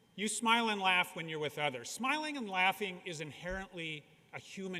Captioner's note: none